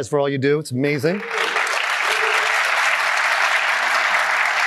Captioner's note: applause